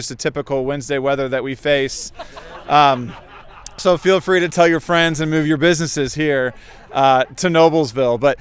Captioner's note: audience laughter